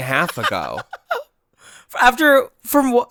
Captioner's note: laughs